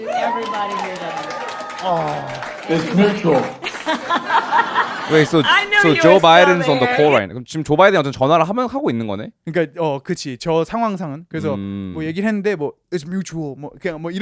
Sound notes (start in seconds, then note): 1.8 laughs; 2.2 applause